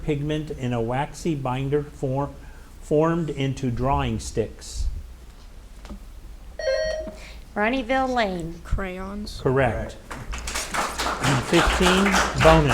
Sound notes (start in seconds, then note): 6.6 buzzer ringing; 10.0 audience applauding